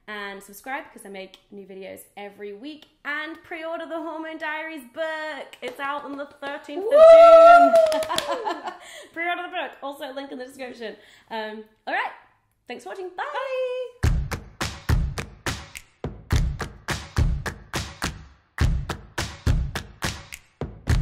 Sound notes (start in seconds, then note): 6.8 cheers; 7.4 laughs; 14.0 upbeat music